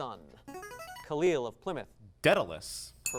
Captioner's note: ding